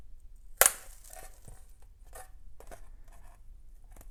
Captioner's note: snapping